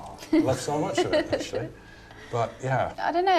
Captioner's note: aide laughing